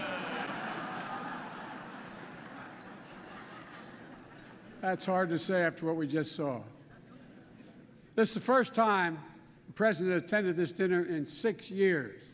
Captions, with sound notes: (Laughter.) That's hard to say after what we just saw. (Laughter.) This is the first time a President attended this dinner in six years.